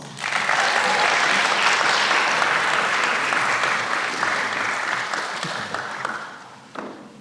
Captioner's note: applause